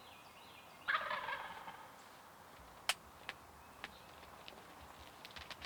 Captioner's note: turkey gobbles